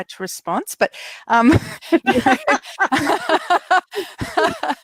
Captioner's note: laughing